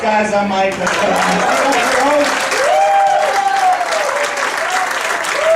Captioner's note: audience cheering and applauding